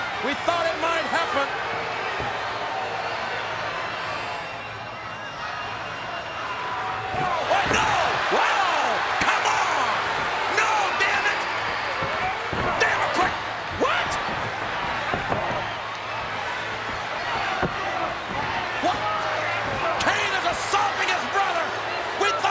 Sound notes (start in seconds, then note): 8.0 audience cheers